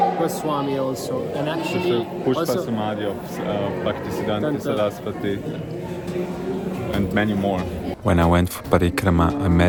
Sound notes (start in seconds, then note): 3.4 non-english speech